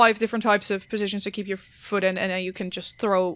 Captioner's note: none